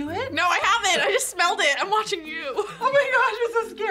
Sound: laughs

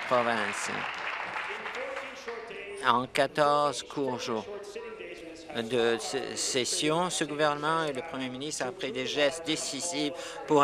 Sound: applause

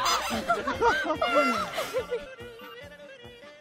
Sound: hahaha

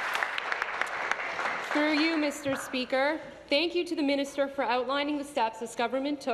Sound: applause

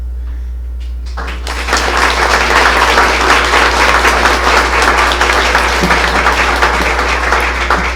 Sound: applause

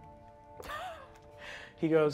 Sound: laughing

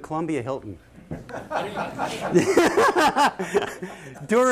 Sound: laughter

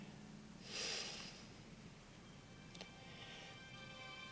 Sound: Steve sighs

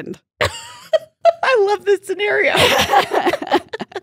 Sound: laughs

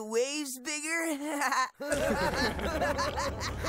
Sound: all laughing

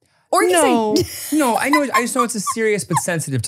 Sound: laughs

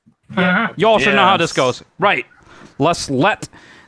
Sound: multiple agreeing sounds

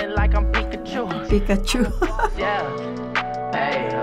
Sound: laughs

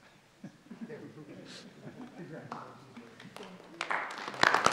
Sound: audience laughs

